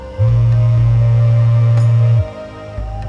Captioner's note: phone vibrates